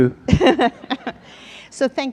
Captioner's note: audience laughs